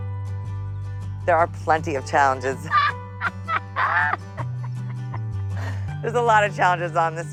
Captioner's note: laughing